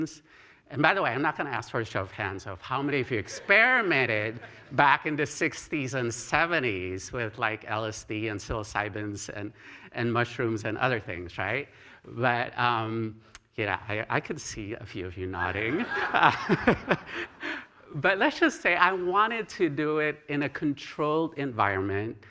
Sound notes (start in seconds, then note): 15.4 laughter